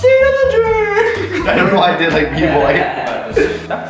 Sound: laughs

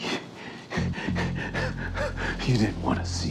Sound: huffing

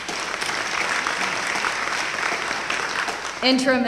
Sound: applause

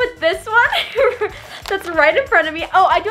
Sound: laughing

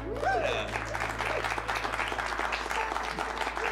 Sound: cheers and applause

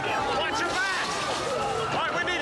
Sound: sirens wailing

